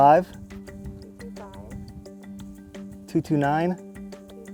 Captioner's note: repeating